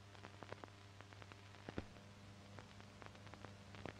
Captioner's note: none